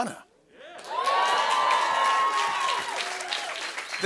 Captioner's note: cheers and applause